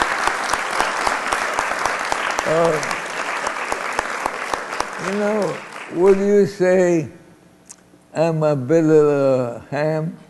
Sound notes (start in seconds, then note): 6.9 applause